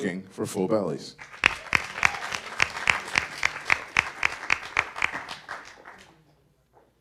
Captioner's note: audience applause